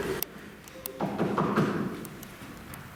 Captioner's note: knocking